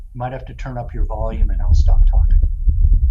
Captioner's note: Low bass sound of wind on Mars